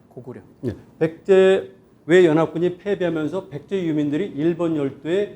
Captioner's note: speaking in Korean